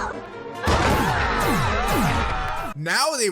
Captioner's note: screaming